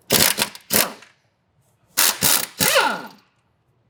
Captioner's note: tool whirring